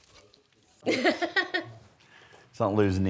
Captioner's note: laughter